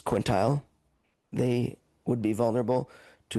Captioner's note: speaking French